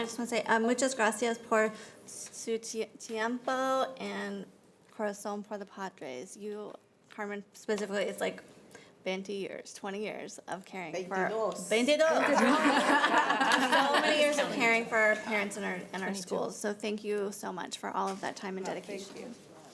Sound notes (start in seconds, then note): 0.9 speaking Spanish; 12.2 laughter